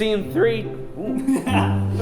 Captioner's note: voice cracking; laughing